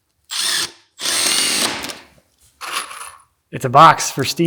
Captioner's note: drill whirring